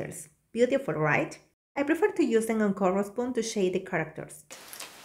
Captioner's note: foam